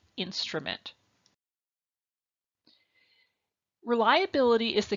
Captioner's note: silence